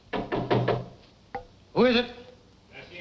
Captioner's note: knocking